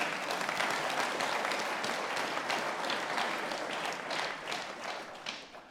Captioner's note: audience laughing, applauding